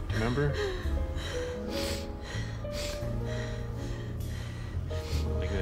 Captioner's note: breaths heavily, sniffles